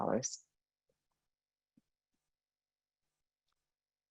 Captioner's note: silence